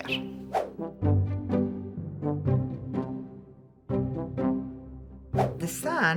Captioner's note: gentle music; screen whooshing